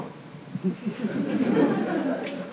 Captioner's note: laughter